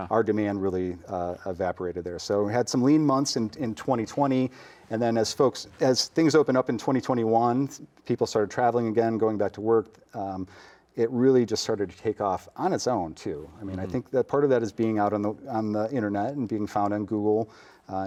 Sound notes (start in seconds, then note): none